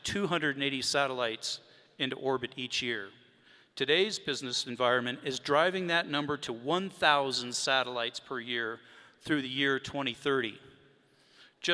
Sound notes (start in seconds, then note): none